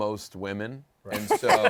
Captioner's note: laughter